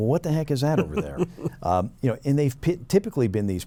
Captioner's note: chuckles